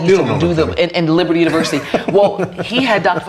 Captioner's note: laughs